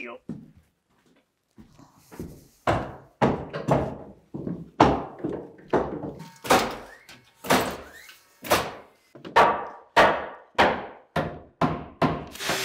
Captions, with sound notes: - There you go. (hammering) (nail gun thudding) (hammering)